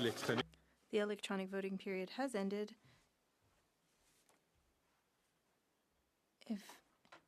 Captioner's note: speaking French